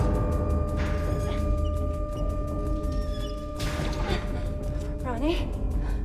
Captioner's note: escape hatch squeaking